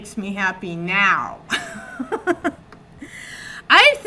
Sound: chuckles

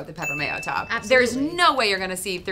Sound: bell rings

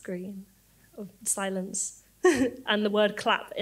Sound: laughs

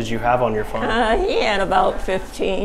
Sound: talking in background

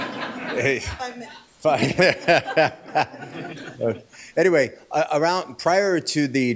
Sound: laughter

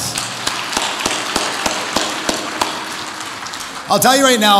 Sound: audience applauds

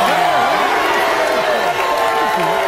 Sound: audience shouts

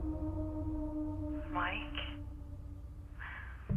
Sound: female voice continues

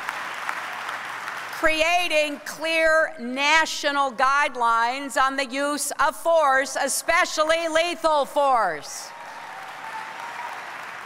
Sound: applause

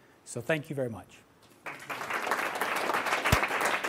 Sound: applause

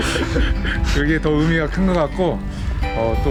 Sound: laughing

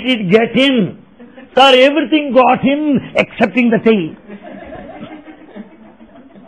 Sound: laughter

